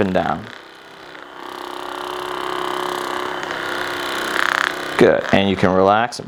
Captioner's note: vibrating machine